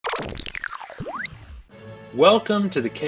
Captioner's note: machine turning on